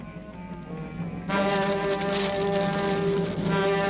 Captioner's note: flames crackling